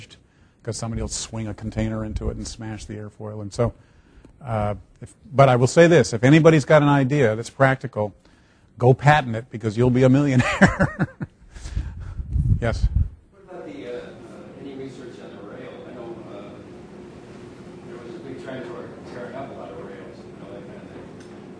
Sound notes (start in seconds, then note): 10.3 laughing